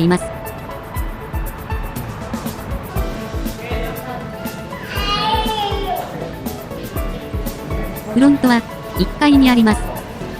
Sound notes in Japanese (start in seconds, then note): 4.6 赤ちゃんの声